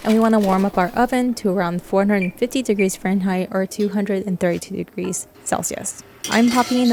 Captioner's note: brb chirping